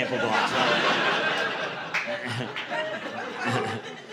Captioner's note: audience laughing